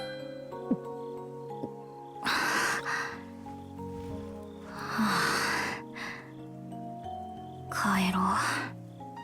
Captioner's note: gulp; sigh